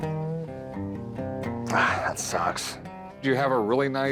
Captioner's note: sighs